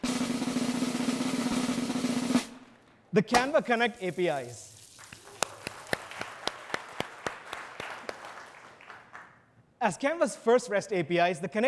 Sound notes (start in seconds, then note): 0.0 drum roll; 4.9 audience applauds